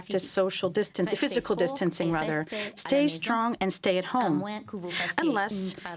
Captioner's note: speaking french